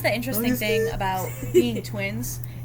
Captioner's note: laughs